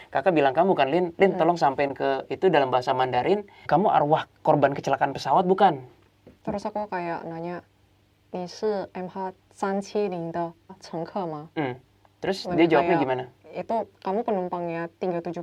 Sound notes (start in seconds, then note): 7.0 in Mandarin